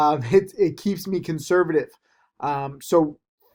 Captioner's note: chuckles